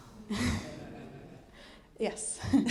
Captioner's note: audience laughing